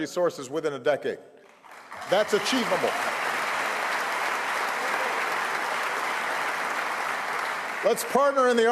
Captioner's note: applause